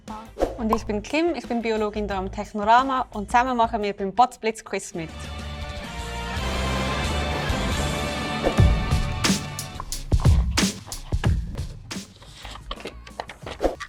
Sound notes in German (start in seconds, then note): 5.5 krachender Donner; 8.5 langsamer Hip-Hop